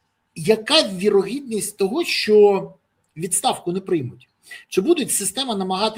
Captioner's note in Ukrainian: сопіння